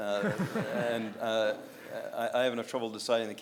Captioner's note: audience laughs